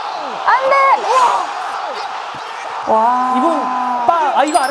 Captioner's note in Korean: 비명